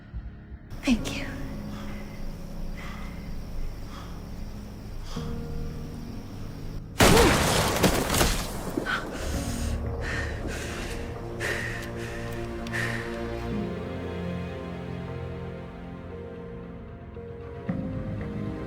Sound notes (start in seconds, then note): 0.8 voiceover; 7.0 gunshot